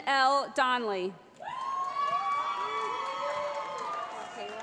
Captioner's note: cheering